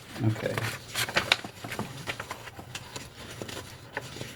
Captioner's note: paper crinkling